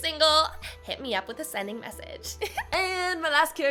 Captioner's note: giggles